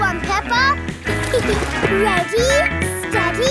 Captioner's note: giggles